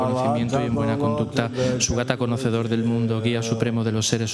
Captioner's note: the group recites in Spanish